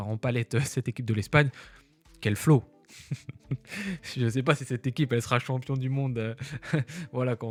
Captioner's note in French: rires